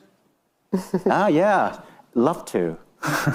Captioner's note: chuckling